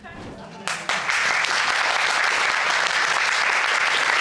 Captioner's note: all applauding